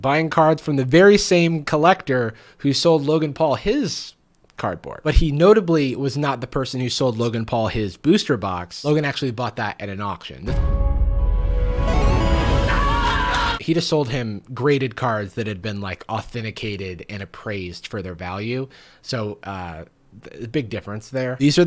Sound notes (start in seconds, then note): 10.4 dramatic music; 12.0 screaming